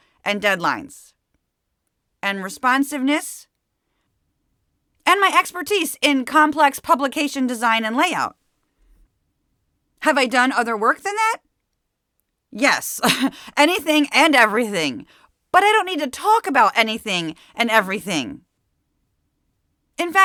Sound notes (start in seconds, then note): 13.0 laugh